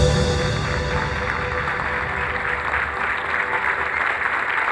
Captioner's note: audience applauds